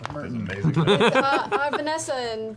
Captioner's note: laughs